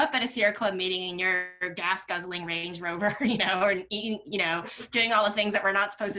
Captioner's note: laughs